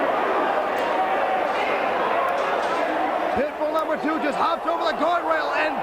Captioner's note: crowd chatter